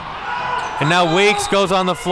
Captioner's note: whistle blows